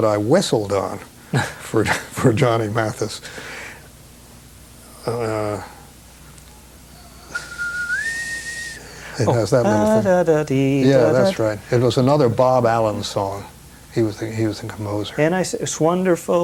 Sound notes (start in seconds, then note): 3.9 whistles; 7.0 hums